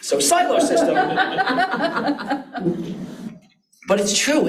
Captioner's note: audience laughs